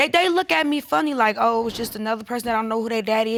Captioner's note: none